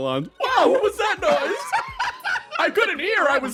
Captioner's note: laugh